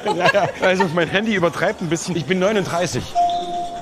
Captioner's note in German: laughs